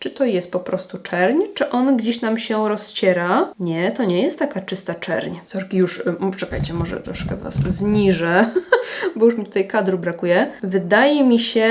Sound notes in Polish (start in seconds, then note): 8.4 śmiech